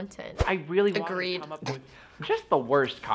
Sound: snickers

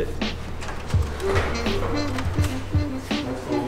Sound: printer noises

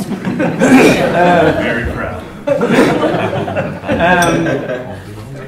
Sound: laughter

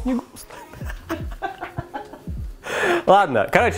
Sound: hysteric laughs

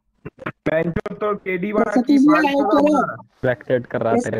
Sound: mixed voices

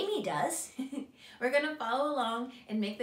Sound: giggles

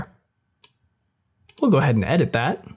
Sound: mouse clicks

